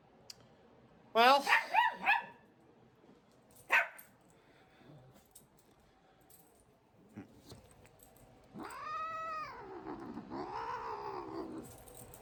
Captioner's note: Ella barks and Caprice growls